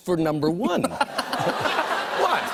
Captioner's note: audience groans